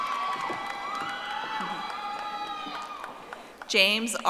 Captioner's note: audience applauding